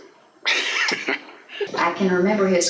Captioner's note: laughs